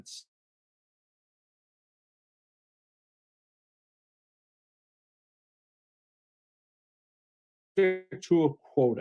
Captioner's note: no sound